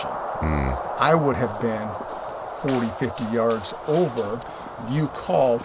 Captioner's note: branches Breaking